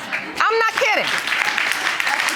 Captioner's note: audience laughing